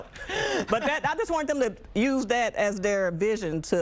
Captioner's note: laughter